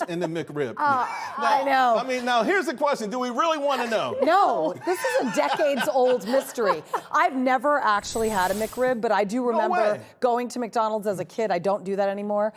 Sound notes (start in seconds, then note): 4.1 laughter